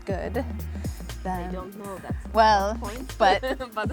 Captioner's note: laughing